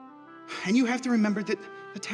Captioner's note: dramatic music; sighs